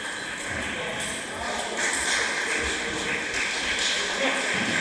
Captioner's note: applause